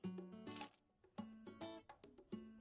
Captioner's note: camera shutter